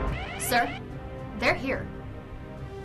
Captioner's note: alarm